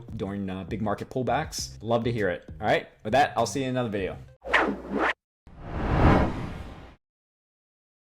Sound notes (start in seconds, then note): 5.6 title whooshes